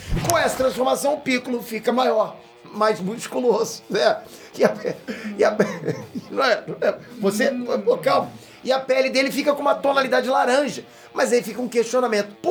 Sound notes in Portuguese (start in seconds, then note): 4.6 morrendo de rir